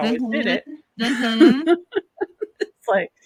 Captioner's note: laughs